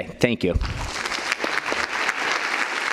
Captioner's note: applause